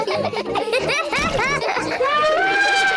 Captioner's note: all laugh; laughs; trumpets